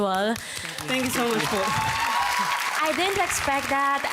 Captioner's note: crowd applauding